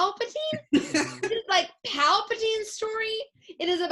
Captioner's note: laughs